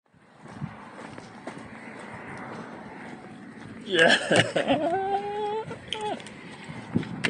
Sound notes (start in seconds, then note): 0.1 dirt crunching; 3.8 laughs